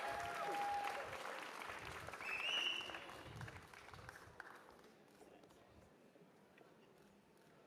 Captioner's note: cheers and applause